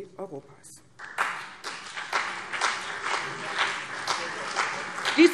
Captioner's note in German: Beifall CDU und BÜNDNIS 90/DIE GRÜNEN